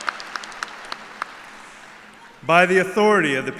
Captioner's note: applause